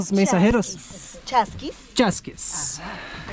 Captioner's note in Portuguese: em idioma quechua